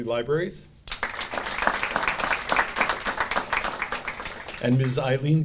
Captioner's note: audience applauding